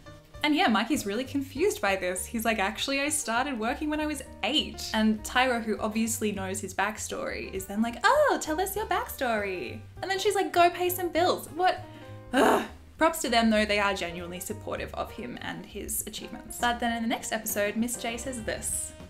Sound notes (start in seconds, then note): 12.3 frustrated exhale